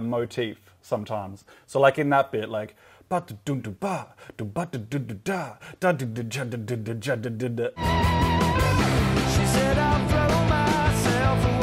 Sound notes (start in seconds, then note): 4.2 imitates drums